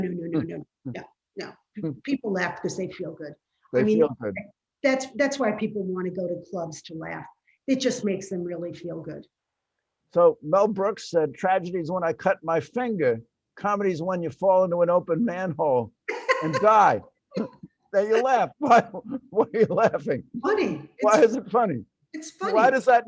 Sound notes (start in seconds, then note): 16.1 laughs; 19.0 laughs